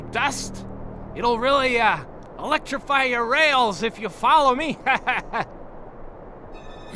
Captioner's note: laughs nervously